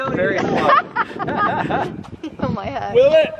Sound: laughing

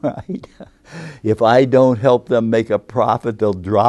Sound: laughs; laughs

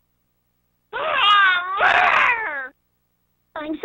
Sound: crying

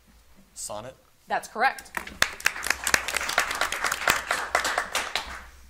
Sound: audience applauding

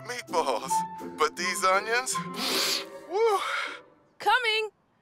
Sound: sniffles

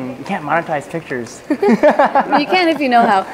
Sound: laughter

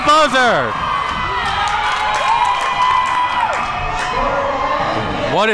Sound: crowd cheering

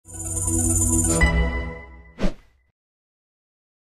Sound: whooshing sound

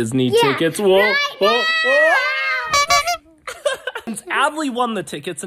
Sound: clown squeaking noise

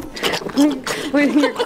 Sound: loud pumpkin squishing; laughing

